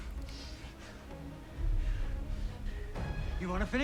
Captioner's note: Daniel pants